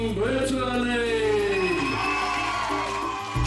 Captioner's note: cheering